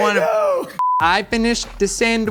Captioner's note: tone beeps